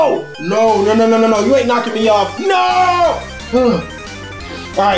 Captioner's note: none